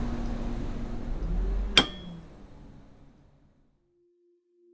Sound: bus bell rings

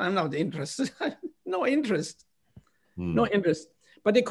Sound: laughter

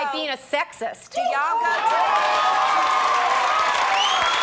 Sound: applause

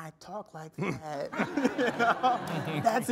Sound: all laughing

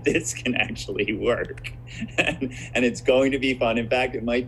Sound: laughs

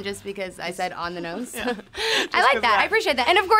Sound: laughs

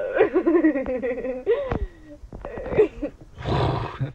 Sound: Alexie laughs

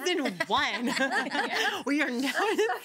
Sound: girls laugh

